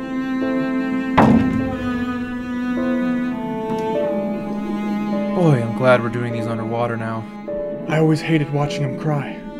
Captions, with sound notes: (kicks water bottle) Boy, I'm glad we're doing these under water now. I always hated watching them cry.